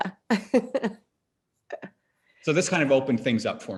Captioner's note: laughs